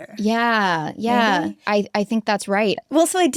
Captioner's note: none